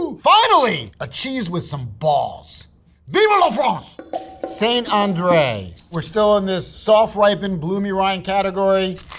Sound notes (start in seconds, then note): 3.1 speaking in foreign language; 4.0 upbeat music